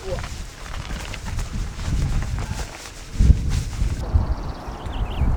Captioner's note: struggling